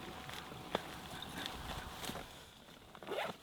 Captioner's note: bag rustling